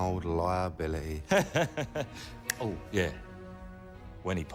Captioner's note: laughs